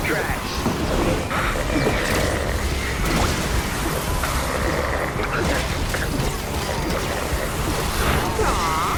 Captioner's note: snoring